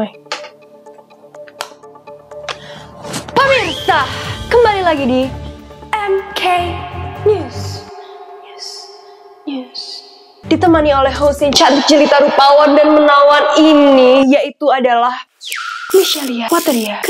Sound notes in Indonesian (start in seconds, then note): 8.1 mimicking echoes